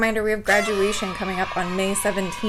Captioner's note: cheering sound